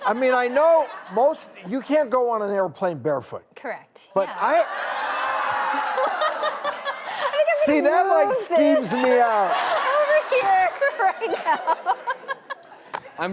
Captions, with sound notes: I mean I know most, you can't go on an airplane barefoot. Correct. Yeah. (audience playfully groans) See that like skeeves me out! I'm in tears right now.